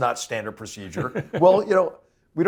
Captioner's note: laugh